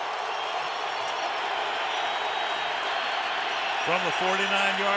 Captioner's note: crowd cheering